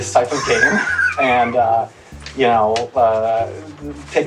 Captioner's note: wheezes